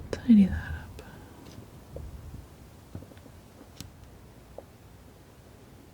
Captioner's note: scratching